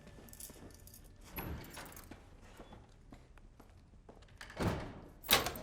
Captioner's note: door opens, closes